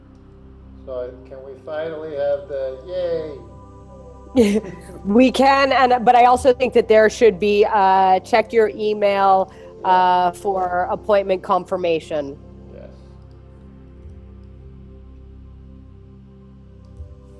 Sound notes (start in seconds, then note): 4.3 both laugh; 14.0 gentle music